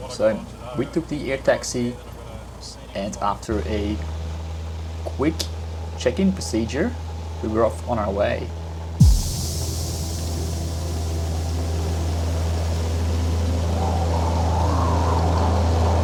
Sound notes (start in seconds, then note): 9.0 upbeat music; 12.5 airplane roaring